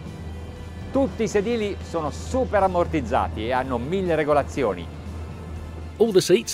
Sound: speaking in foreign language

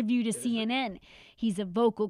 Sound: speaking Foreign Language

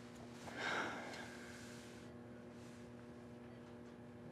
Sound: Jane sighs

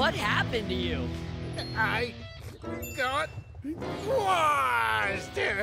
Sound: crying

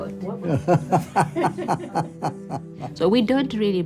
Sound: man laughs

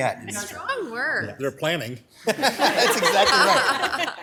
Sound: all laughing; laughs

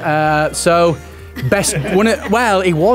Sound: laughing

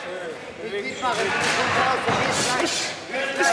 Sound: shouts

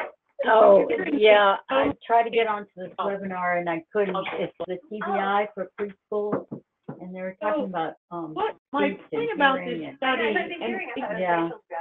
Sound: interruption in audio

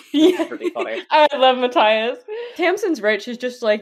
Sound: laughing

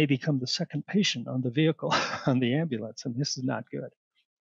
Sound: laughter

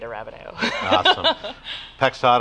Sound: laughs

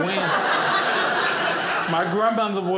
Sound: audience laughing

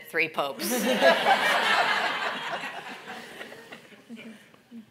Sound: all laughing

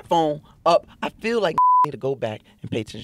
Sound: beep

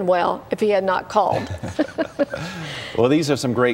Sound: laughter

